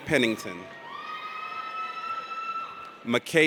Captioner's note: audience cheers